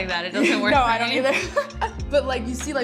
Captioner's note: laughs